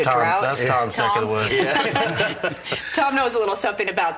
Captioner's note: chuckles